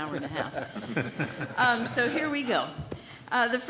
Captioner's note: laughter